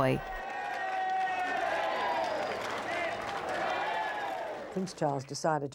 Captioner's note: crowd applauding